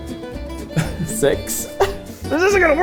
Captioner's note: laughs